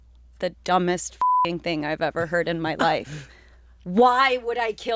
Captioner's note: beep